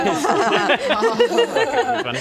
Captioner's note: traumatised laughter